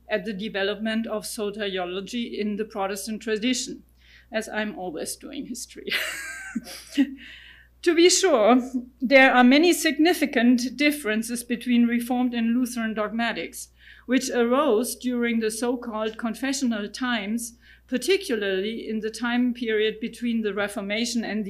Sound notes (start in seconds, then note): 5.9 laughing